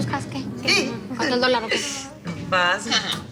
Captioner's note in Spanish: Hablan al unísono